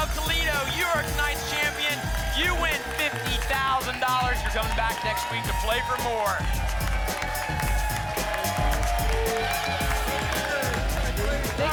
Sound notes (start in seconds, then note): 7.0 applause and cheering